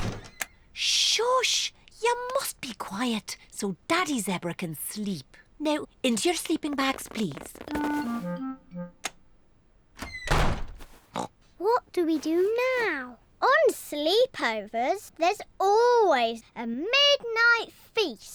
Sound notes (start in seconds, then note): 11.1 oinks